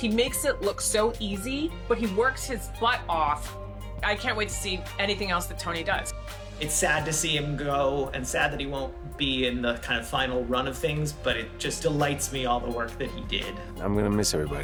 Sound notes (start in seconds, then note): none